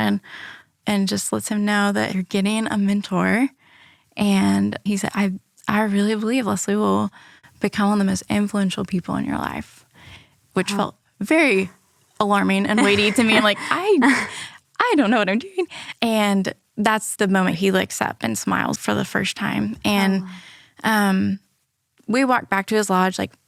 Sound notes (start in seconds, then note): 12.7 laughs